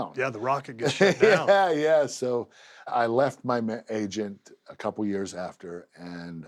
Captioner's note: laugh